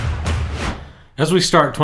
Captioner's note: whooshing